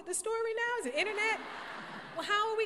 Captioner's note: laughter